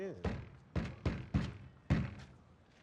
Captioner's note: banging